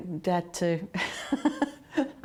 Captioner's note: laughter